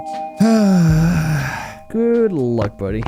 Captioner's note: sighs